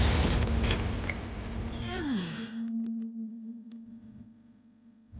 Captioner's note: chilling music; clone grunts